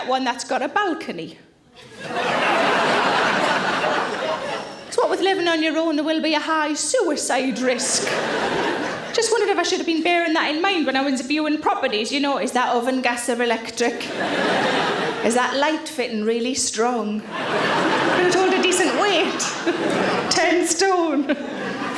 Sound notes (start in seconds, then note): 1.8 audience laughing; 14.0 audience laughing